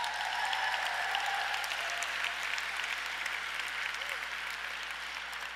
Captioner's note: audience cheers and applauds